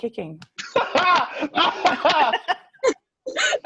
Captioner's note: laughing